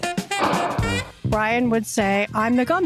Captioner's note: sound of gavel